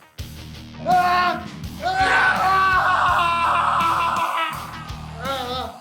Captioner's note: screaming